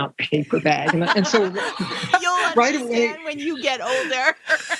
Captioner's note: laughing